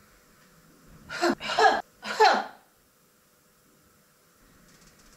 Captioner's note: 'ha' sounds